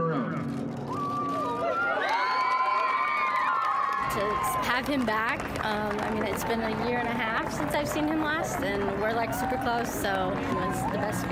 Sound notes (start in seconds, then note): 5.3 cheering